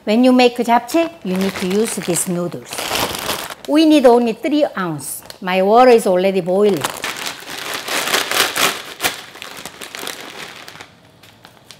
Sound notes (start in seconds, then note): 6.6 noodles, bag crunching